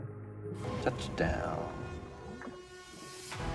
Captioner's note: water bubbles; rousing dramatic music